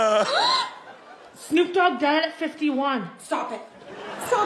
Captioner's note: gasps; laughs